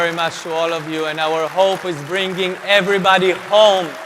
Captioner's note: applause